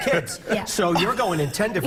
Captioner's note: laughter